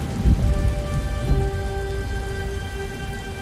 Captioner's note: rain pattering